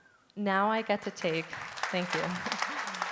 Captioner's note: applause